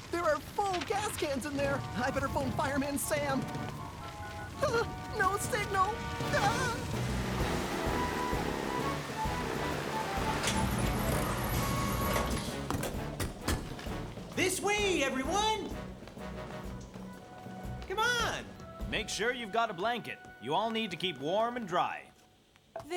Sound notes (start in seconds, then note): 3.7 cell Tone